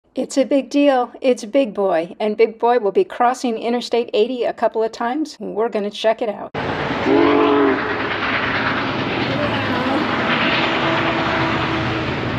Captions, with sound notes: It's a big deal! It's Big Boy! And big boy will be crossing Interstate 80 a couple of times. And we're going to check it out. [Train whistle blows]